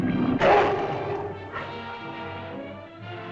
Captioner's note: lizard bellows; suspenseful music